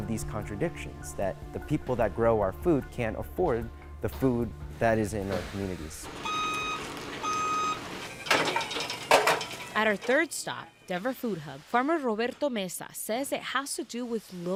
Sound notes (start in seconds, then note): 6.2 indicator beeping; 8.0 machine clunking